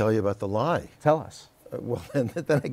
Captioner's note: laughter